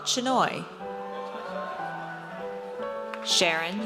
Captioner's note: audience cheers